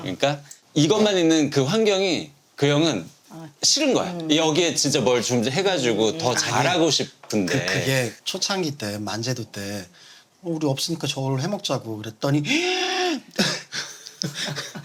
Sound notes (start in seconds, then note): 12.5 gasp